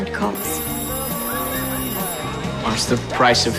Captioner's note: phone ringing